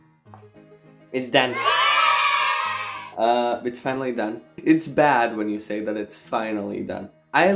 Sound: chidren cheering

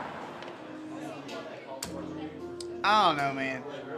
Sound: people chattering

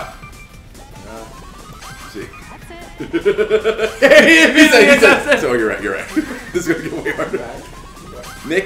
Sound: laugh

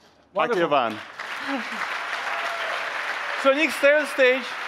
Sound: applause

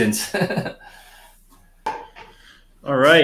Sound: chuckles

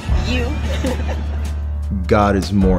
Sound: giggles

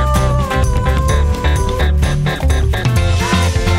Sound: heart beating

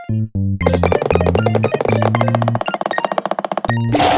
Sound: shoes tapping

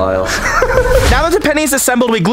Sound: laughing

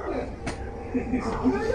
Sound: dog growling; distressed Techmoan noises

